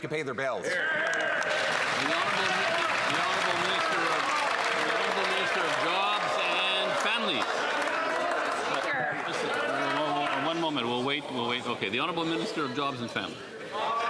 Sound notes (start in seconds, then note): 6.4 some Applause